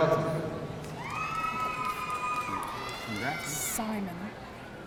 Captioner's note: audience cheering